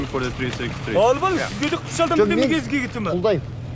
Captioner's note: man speaks in Mongolian